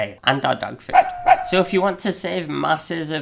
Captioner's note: dog barking